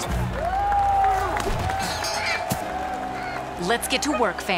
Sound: crowd cheering

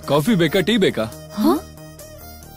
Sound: gasps

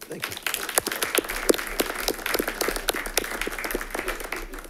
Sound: audience applauds

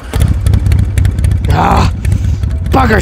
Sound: engine purrs

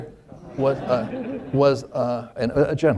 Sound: laughter

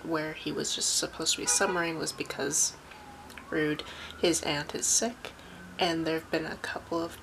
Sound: car horn

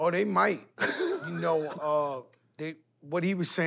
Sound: laughter

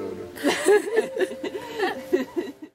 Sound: they all laugh

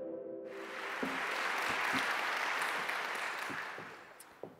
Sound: audience applauding

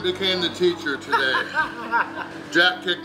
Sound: laughs

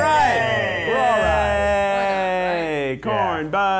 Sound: cheering

